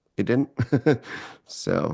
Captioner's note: laughs